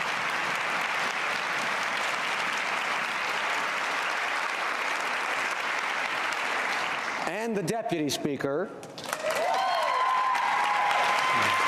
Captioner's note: cheering and Applause